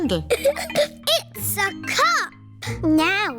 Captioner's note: giggles